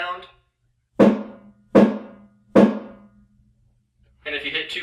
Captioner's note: dead thud sound